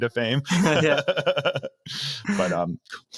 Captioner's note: laughing